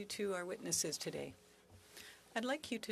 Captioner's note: speaking French